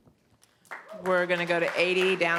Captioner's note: audience applauding